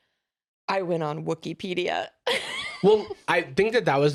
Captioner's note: laughs